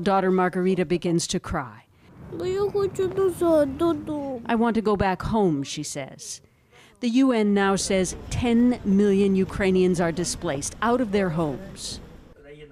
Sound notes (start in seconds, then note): 6.3 speaking Foreign Language